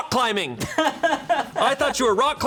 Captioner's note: crew member laughing